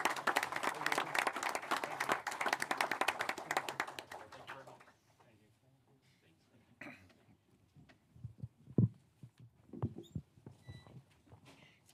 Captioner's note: applause